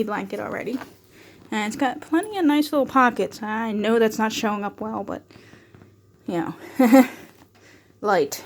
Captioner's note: laughs